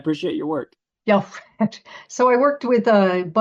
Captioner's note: laughs